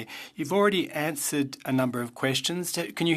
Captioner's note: speaking French